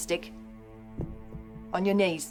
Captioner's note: thud